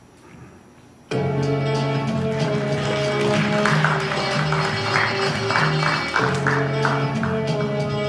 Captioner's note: applause